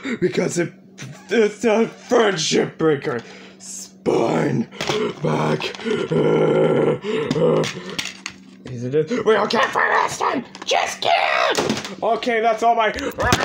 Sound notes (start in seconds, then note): 4.5 groaning; 9.2 in Toy Bonnie's Voice